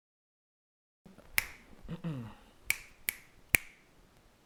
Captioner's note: clicking